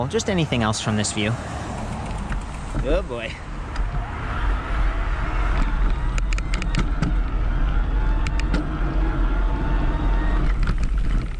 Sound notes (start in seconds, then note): 5.6 motor whirs